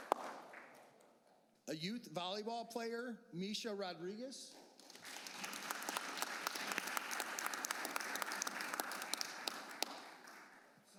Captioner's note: applause